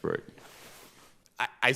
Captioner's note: robes rustling